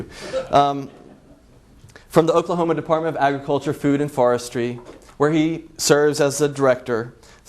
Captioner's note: laughs